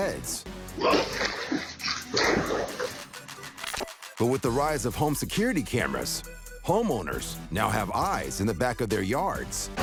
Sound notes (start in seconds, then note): 0.8 water splashing